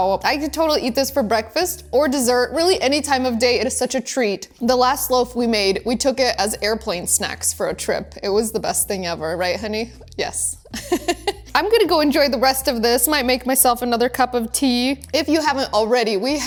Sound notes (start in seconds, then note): 10.7 laughs